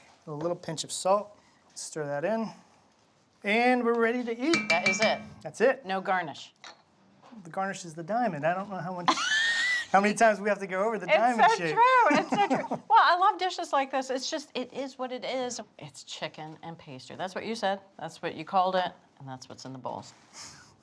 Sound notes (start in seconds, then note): 9.1 laughs